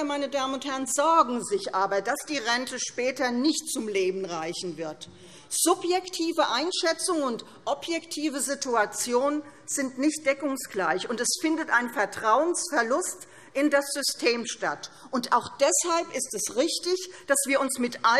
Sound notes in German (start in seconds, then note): none